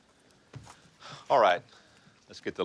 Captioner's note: sighs